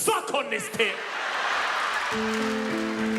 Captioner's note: both laughing